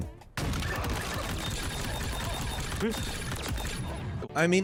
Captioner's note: gun firing